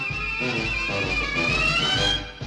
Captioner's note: horn